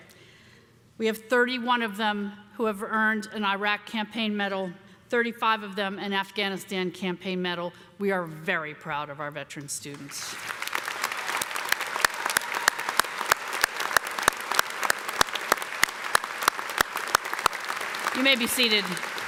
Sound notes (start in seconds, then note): 10.2 applause